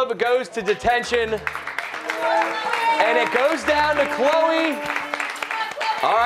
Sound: cheers and applause

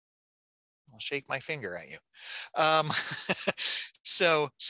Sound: laughing

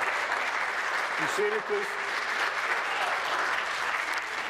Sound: applause

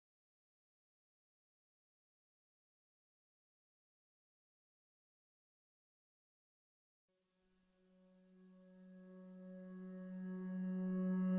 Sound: sound of mysterious misty morning

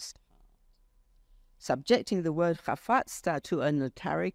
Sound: speaks foreign language

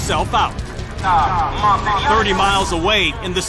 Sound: man speaking spanish

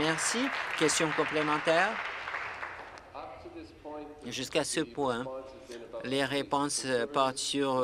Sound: applause

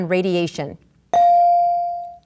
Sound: ding

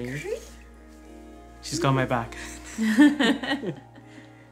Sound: laughs

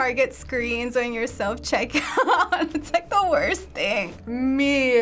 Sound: laughs

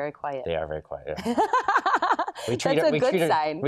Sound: laughs

